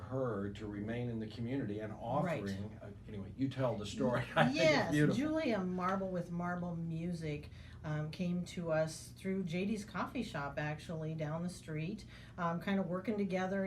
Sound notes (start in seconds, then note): 5.1 laughing